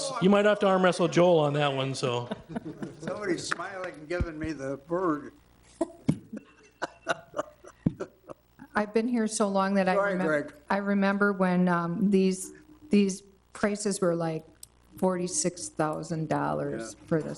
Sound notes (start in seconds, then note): 5.8 laughing